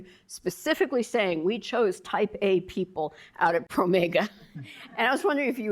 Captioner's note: chuckling